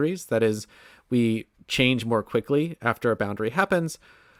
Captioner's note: none